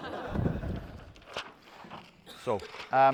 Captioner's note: laughter